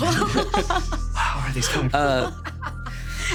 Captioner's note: everyone chuckling; ominous music; sighs; laughing